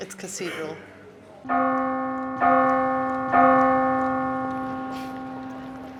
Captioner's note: bells tolling